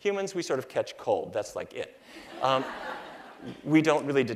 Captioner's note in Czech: Smích